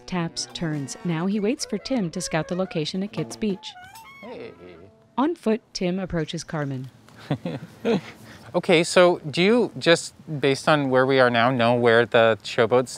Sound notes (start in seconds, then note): 0.0 trumpets squeal, sax bops and noodles; 6.1 crow calling out, songbirds chirping; 7.1 chuckles